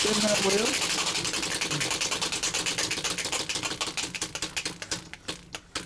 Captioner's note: wheel spinning